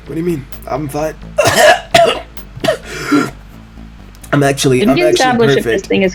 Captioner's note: anguished hacking and coughing